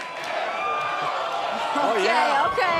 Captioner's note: fans chanting